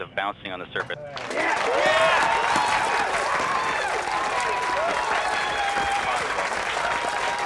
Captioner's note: crowd cheering and clapping; cameras clicking